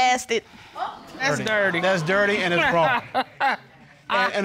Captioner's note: laughs